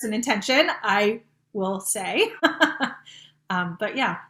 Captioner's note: chuckling